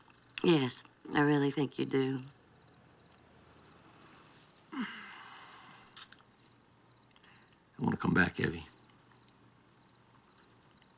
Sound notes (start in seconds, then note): 4.7 cal sighs